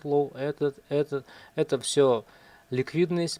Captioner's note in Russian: none